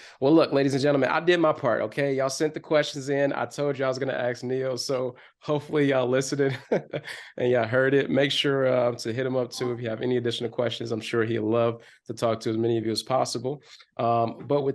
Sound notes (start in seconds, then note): 6.4 chuckles